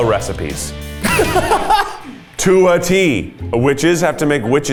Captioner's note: laughs